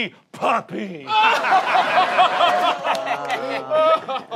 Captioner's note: laughs